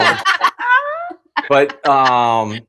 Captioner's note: laughter